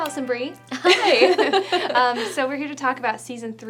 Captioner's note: laughing